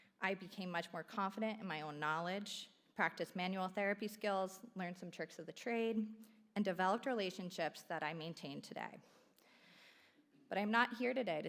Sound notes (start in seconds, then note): none